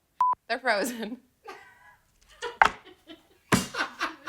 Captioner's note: laughing